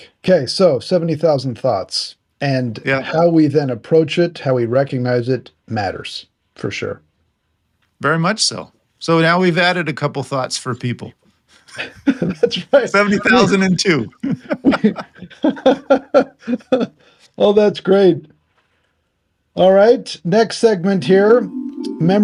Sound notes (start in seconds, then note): 14.0 both laughing